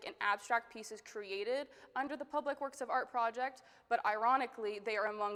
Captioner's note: none